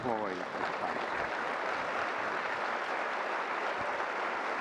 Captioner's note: audience applause